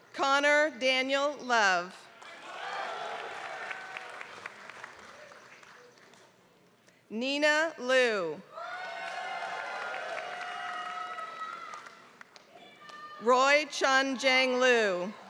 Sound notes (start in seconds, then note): 2.1 applause; 8.8 applause